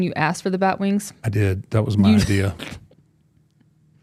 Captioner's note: laughing